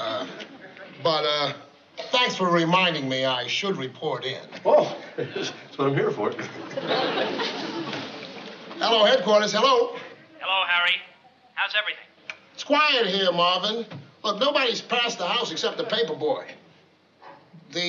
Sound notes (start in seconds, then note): 10.2 on walkie-talkie